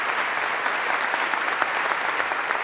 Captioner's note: applause